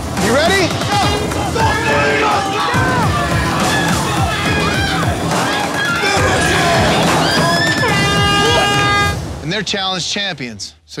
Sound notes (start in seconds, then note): 0.7 contestants yelling; 7.6 air horn blows